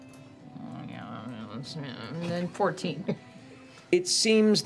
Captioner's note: grumbling